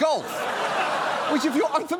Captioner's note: audience laughing